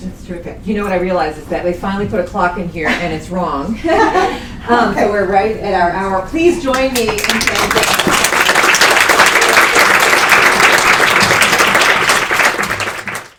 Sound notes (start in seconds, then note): 6.8 applause